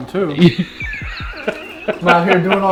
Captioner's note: laughter